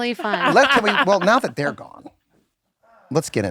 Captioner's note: laughing